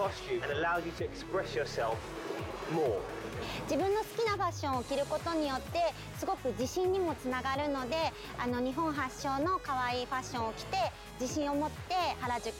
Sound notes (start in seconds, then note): 3.2 speaking Japanese